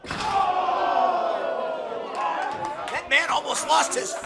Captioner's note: crowd chanting